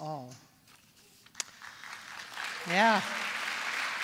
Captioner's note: applause